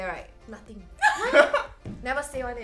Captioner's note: everyone laughs